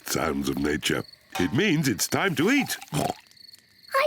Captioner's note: oinks